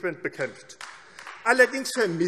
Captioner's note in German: Beifall AfD